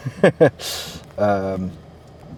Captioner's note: laughs